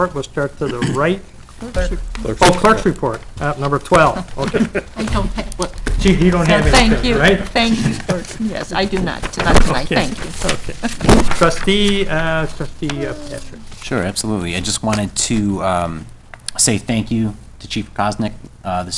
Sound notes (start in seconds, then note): 4.3 laughing